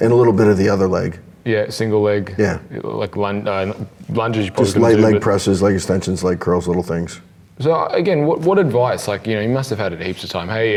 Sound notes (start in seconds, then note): 3.9 murmurs